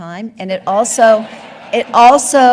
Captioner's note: audience laughing